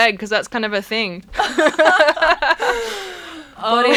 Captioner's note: laughing